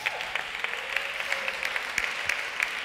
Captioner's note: applause